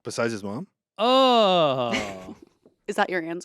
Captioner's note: Ian groans